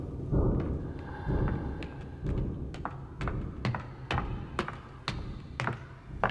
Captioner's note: footsteps